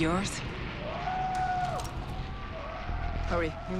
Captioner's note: distant howling, clamoring